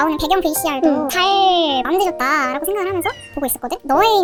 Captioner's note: meow